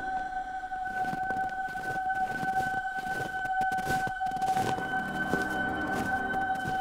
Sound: footsteps

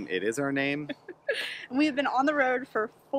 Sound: laughter

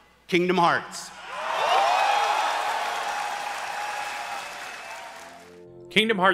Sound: crowd cheering in the background

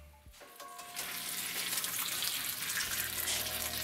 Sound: pan hissing

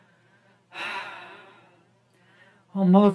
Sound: sighs

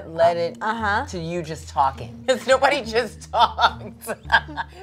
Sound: laughs

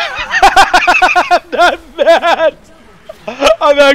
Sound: Kaibaman continues laughing

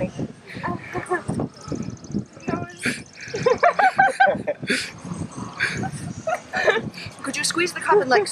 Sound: giggling; snarfling sounds

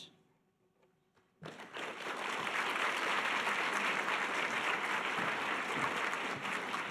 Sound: audience applause

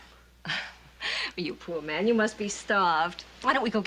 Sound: laughs

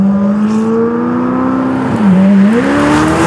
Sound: engine Roaring

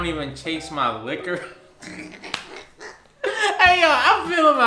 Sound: laughs

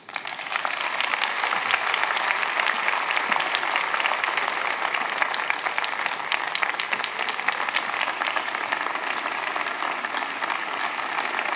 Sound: applause

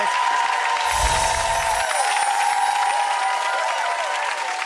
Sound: audience cheering

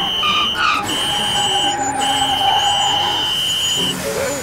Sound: tires screeching

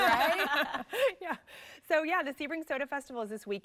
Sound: laughter

